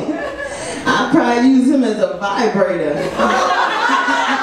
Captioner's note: audience laughs; laughs